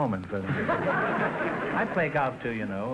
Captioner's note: audience laughter